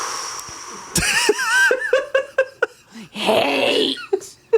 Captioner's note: laughs